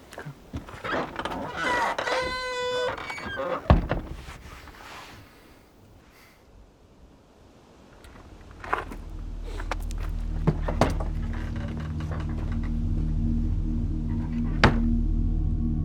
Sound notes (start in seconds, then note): 0.5 door creaking; 3.6 closes door; 10.7 ominous music